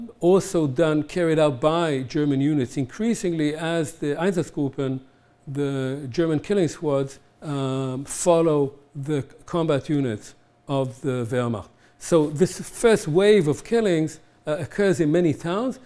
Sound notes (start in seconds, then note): 4.7 german